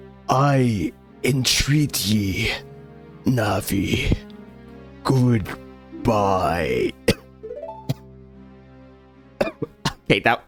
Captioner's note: coughs